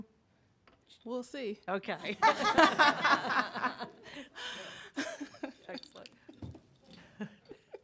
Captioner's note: laughter; laughter